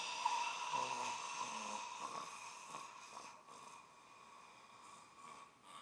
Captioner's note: staggered exhaling